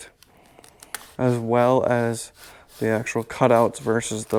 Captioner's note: hand shuffling